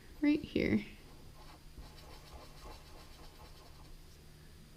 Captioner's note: pen scratching